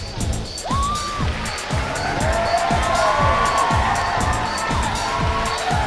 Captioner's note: cheering and clapping